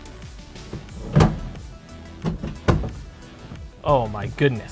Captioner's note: seat clinks and thuds